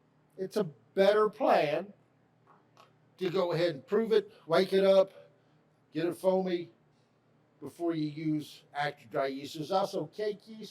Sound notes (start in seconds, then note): none